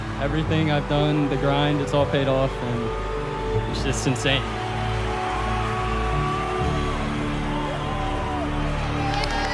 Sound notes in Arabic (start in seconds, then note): 5.3 تشجيع الجمهور